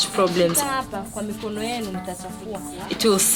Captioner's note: non-english speech